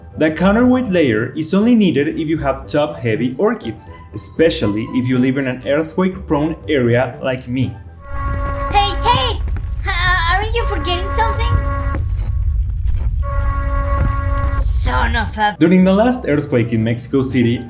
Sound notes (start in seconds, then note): 11.6 earthquake alarm system sounds